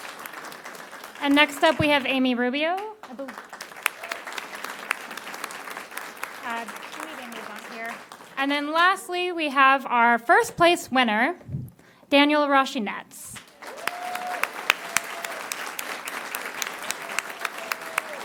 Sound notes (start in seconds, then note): 2.6 applause; 11.6 applause